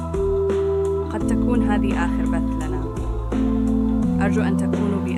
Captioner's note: speaking arabic